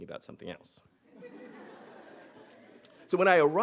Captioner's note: audience laughing